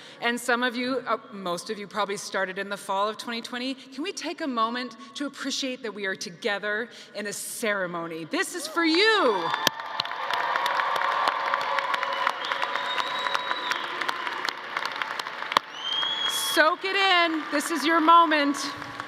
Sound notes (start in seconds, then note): 10.1 audience cheering